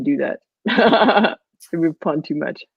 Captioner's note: laughs